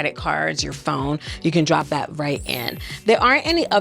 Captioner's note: chimes ringing